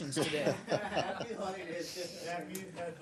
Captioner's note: laughter